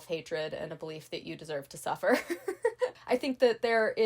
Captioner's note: laughing